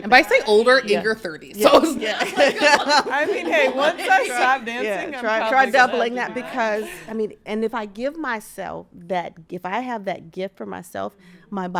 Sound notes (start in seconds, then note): 1.7 everyone laughing